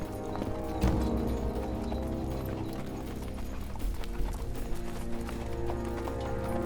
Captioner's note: horses trotting